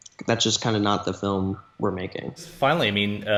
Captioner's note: none